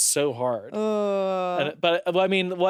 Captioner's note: groans